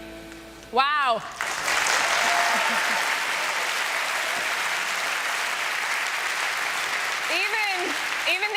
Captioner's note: applause